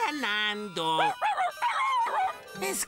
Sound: barking in Agreement

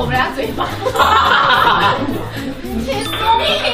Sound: haha

